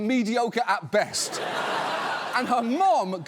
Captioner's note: studio audience laughs